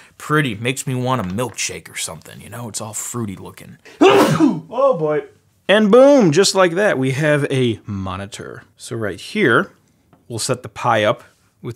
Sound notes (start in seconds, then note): 4.0 sneezes